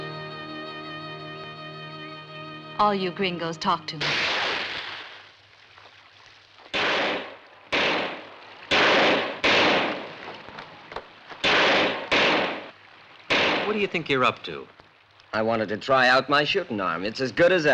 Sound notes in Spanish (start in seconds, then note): 4.0 Disparo; 11.4 Disparos